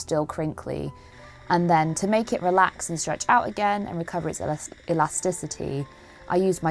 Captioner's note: steamer noises